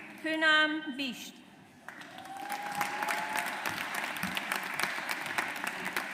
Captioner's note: audience applauds